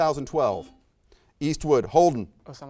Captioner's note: buzzer beeps beeps